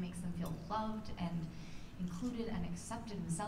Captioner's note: none